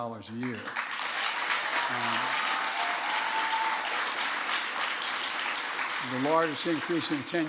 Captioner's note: applause